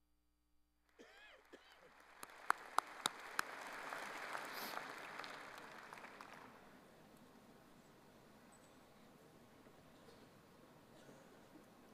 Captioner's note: applause